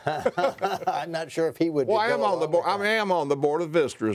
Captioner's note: laughs